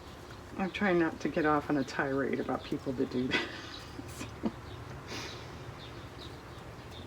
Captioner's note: laughs